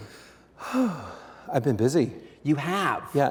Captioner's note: sighs